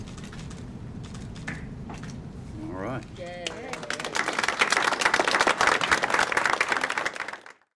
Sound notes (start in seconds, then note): 0.0 cameras clicking; 3.2 crowd; 6.3 applause